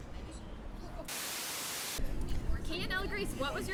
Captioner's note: static buzzes